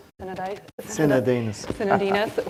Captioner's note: chuckles